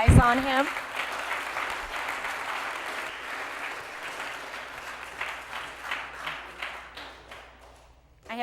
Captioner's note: applause